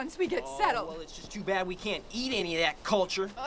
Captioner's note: groans